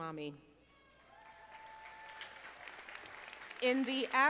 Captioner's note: audience applauding